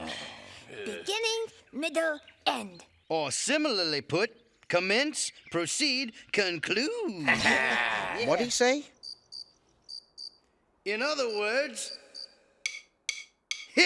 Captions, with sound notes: - Beginning, middle, end. - Or similarly put, commence, proceed, conclude. - What'd he say? (crickets chirping) In other words.